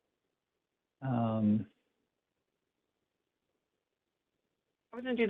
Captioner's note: pause